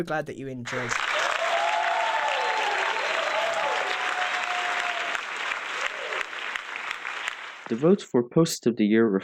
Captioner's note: applause